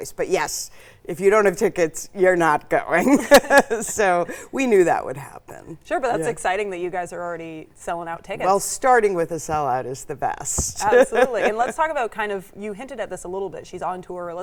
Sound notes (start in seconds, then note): 3.0 laughs; 10.8 laughs